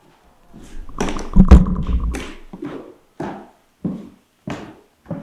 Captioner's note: flashlight thuds